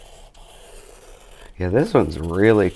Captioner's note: pencil scrapes